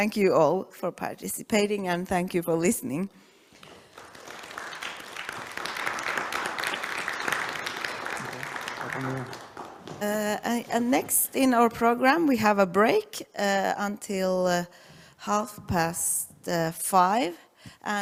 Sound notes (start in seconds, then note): 3.5 applause